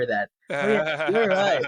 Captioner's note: laughing